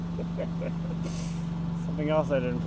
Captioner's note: laughing